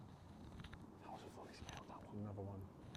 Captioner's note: whispering